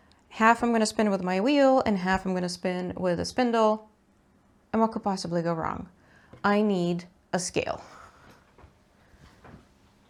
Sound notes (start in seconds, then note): none